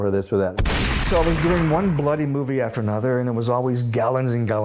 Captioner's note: gunshot